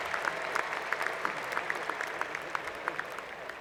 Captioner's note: applause